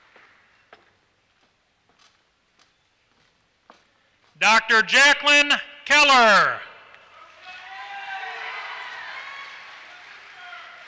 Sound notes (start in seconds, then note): 7.2 applause